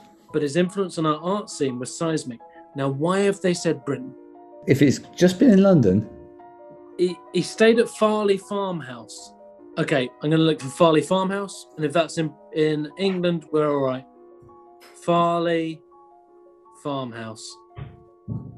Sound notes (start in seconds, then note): none